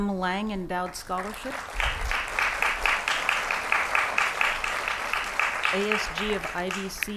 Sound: applause

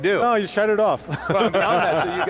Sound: they laugh

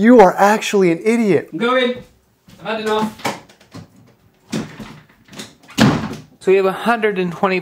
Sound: door closing

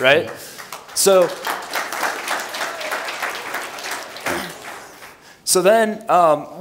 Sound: applause

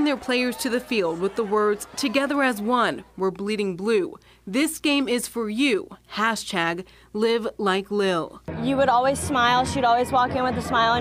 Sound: applause

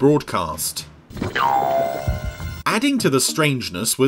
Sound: spring boings

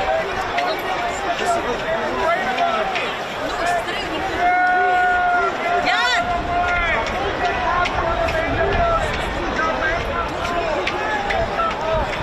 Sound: crowd noise

